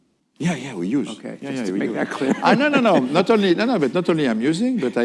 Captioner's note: laughter